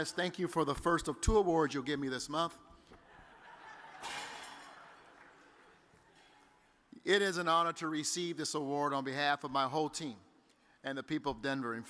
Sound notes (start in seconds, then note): 3.0 audience laughs